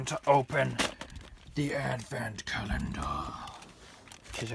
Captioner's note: Darth Vader voice